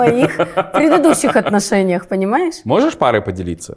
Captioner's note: laughs